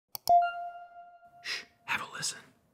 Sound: clicks; chiming

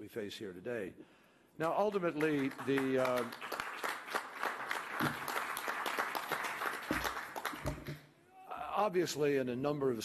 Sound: applause

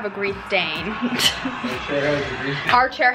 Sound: laughs

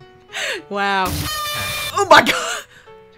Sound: slight earrape

